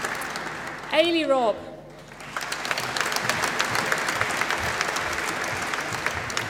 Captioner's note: applause